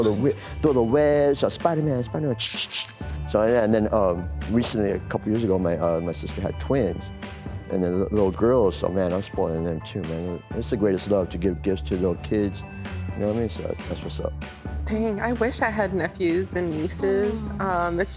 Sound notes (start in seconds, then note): 2.4 makes shooting noises